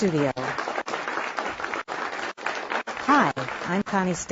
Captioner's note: applause